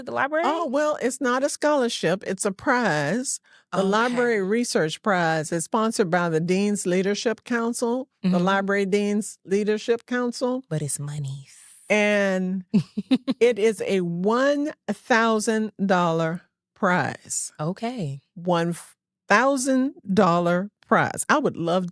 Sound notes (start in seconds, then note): 12.7 giggles